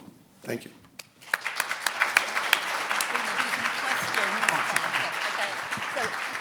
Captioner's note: audience applauding